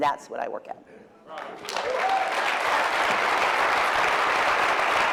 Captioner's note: applause